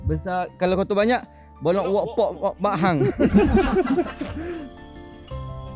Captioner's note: laugh